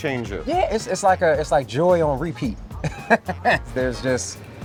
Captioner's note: chuckles